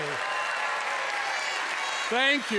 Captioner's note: cheers and applause